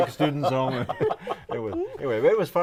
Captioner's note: laughing